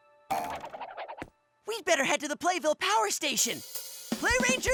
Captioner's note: boing